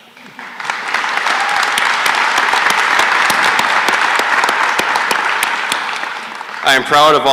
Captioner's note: applause